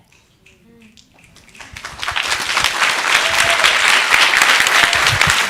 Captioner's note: audience applauding